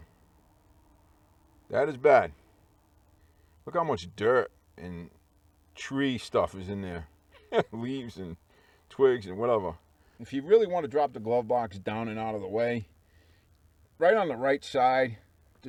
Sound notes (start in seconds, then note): 7.3 laughing